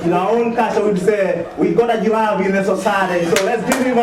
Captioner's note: speaks foreign language